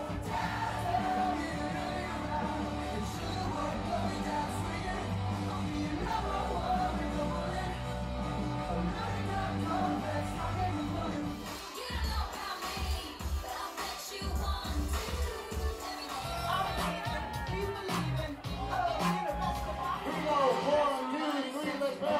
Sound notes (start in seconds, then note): 16.6 crowd cheering; 16.6 upbeat music